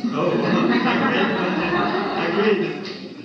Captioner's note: laughter